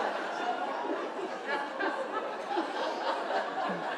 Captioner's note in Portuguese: plateia continua a rir